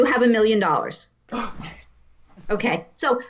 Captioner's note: gasps